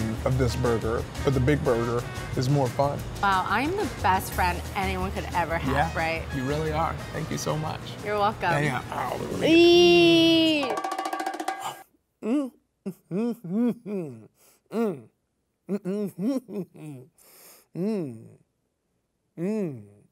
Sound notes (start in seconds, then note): 10.4 upbeat music; 12.9 chuckles; 14.7 humming